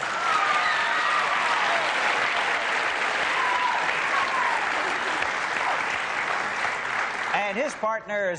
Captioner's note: applause